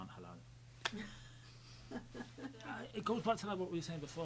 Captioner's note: laughing